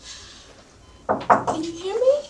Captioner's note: knocking